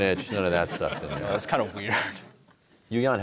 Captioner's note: laughter